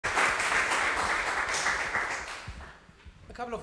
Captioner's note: audience applauding